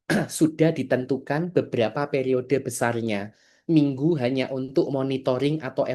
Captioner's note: berdehem